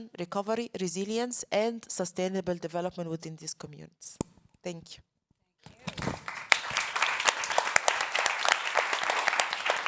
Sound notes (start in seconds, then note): 5.8 all clapping